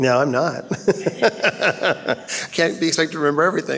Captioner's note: laughing